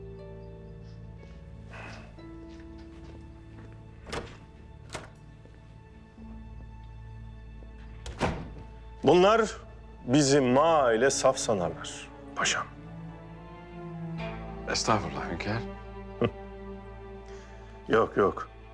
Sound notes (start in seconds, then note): 2.5 sound of door opening; 7.8 the door closing sound